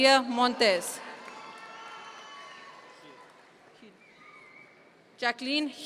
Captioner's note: audience members cheer